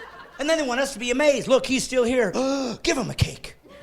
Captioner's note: laughing